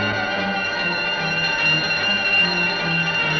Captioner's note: bell ringing